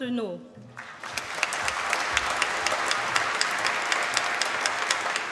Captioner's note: applause